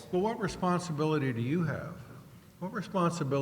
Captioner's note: voiceover